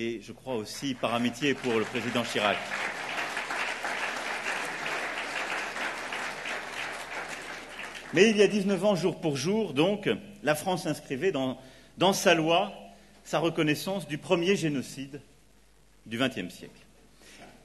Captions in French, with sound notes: et je crois aussi par amitié pour le président Chirac. (Applaudissements) Mais il y a 19 ans jour pour jour donc, la France inscrivait dans sa loi sa reconnaissance du premier génocide du 20ème siècle.